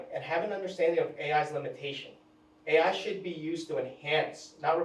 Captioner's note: none